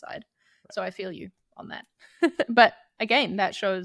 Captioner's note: chuckles